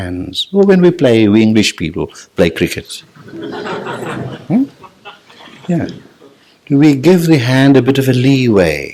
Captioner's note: general laughter